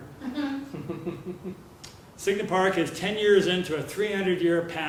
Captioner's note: laugh